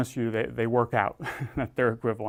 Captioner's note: laugh